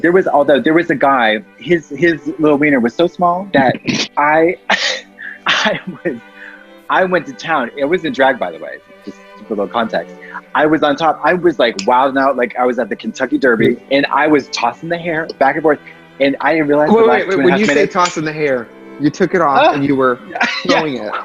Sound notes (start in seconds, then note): 3.5 laughs